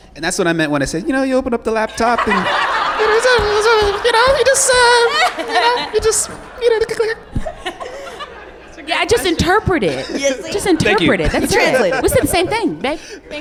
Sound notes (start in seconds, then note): 3.0 high pitched voice